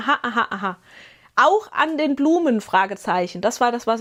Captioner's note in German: Gelächter